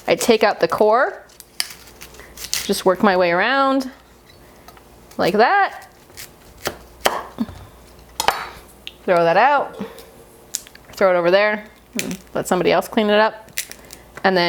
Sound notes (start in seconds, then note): 5.7 knife cutting